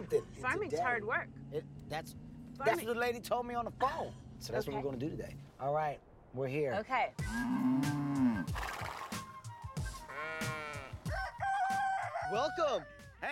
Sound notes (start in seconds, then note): 8.3 neighs; 10.0 sheep bleating; 10.9 clucks